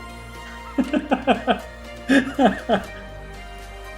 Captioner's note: laughs